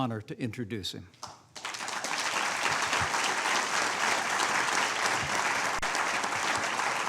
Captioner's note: applause